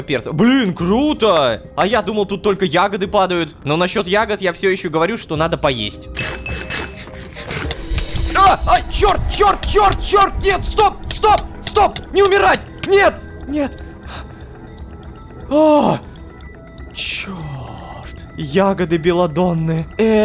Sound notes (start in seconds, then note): 6.2 crunch-crunch-crunch; 7.7 sound of pain